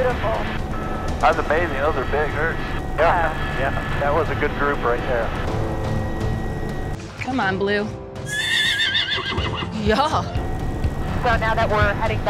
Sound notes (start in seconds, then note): 8.2 horse whinnies